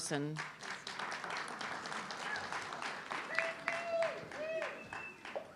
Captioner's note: audience clapping